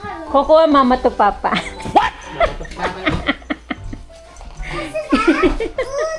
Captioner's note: laughter